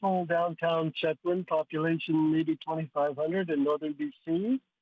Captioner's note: speaking French